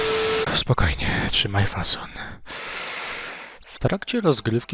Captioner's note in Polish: wdech